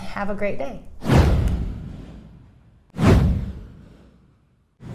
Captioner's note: air whooshing